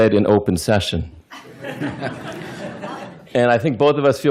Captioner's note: laughter